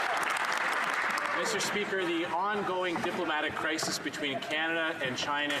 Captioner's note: some Applause